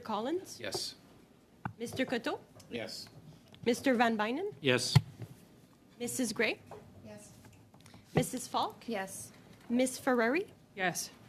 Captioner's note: calling of recorded vote